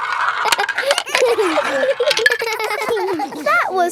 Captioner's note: all giggling